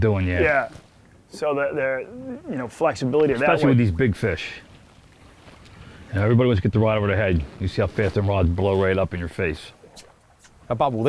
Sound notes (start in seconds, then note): none